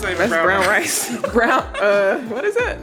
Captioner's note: laughing